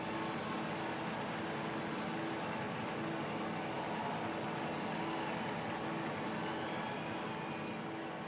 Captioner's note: cheers and applause continue